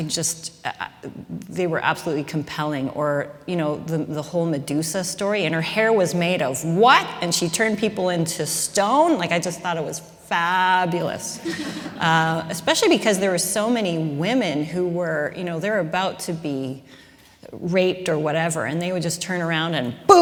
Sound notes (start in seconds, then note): 11.4 laughter